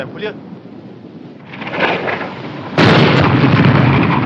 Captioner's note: artillery whizzing, explodes